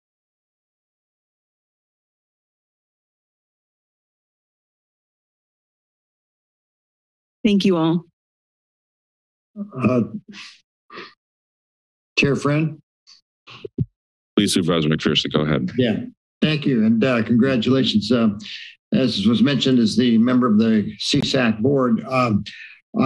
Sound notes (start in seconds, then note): 0.3 silence